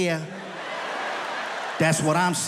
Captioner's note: audience laughs